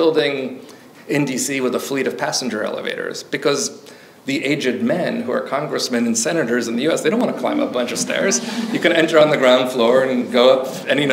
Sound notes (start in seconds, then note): 7.2 audience chuckles